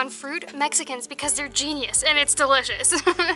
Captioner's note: laughter